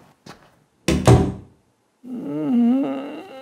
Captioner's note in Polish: dźwięk zamykanych drzwi